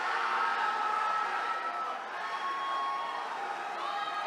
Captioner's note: attendees cheering